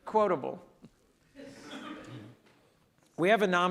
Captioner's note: audience laughs